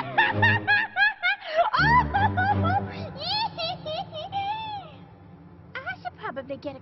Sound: cackling

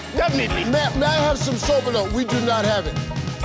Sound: in foreign language

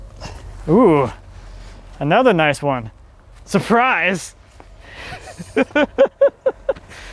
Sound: laughing

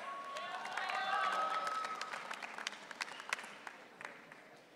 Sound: audience cheering

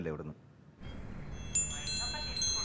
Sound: wind chimes

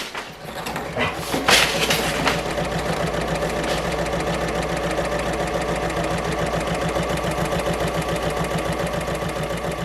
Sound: sewing Machine Sounds

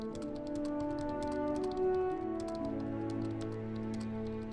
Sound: typing sounds

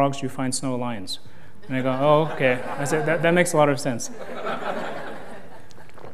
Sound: laughter

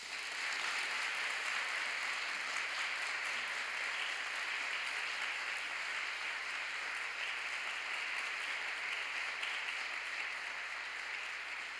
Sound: applause

